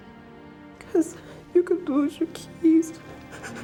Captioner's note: sobs